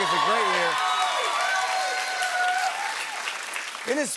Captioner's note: cheers and applause